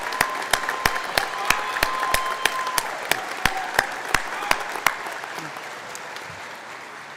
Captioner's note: applause